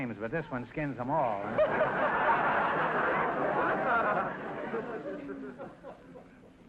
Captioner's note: audience laughter